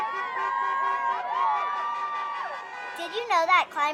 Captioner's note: cars honking; protesters shouting